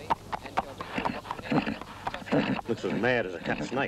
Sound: horse whickering

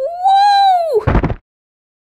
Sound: thud!

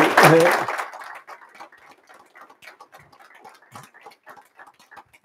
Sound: applause

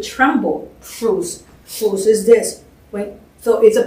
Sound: non-english

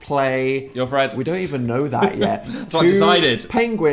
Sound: laughs

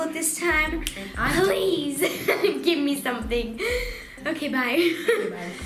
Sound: laughing

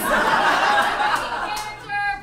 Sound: audience laughs

